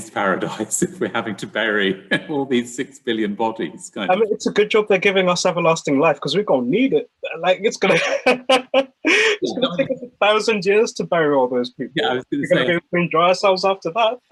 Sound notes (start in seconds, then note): 7.8 laughs